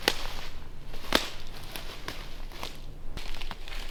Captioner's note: branches snapping